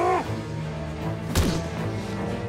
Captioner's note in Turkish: Bağırma sesi; Yumruk atma sesi